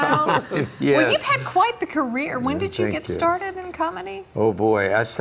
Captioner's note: laughter